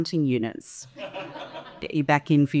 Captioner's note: audience laughing